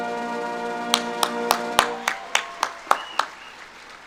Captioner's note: audience claps